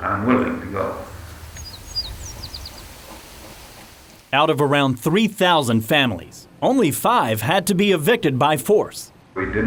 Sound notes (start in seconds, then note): 0.0 birds chirping; 0.0 leaves rustling